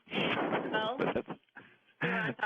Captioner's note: laughter